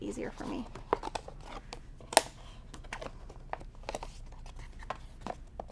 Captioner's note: scissors snipping